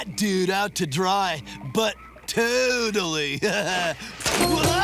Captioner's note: laughing